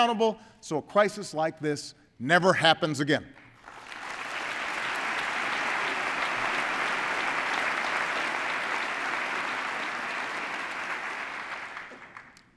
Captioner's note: applause